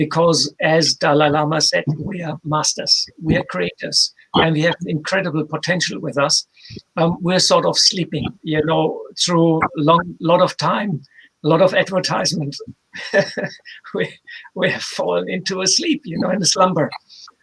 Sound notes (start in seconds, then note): 12.9 chuckles